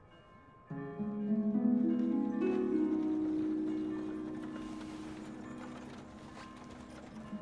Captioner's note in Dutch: kerkklokken luiden; rammelende koets